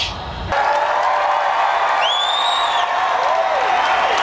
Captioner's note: crowd cheering